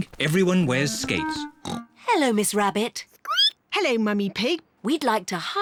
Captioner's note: snorts; squeaks